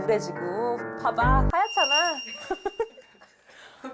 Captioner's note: pearly white sparkle SFX